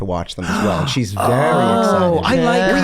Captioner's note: Glenn gasps